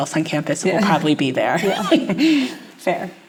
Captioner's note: laughs